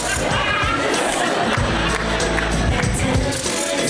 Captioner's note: audience laughs and applauds